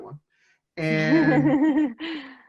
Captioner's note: laughs